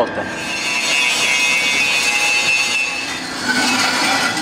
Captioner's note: sounds of a flex saw